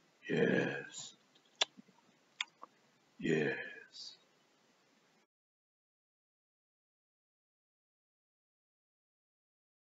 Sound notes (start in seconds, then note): 1.4 nom nom